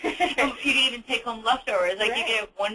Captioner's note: laughs